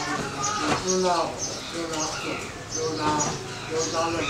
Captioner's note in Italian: parla birmano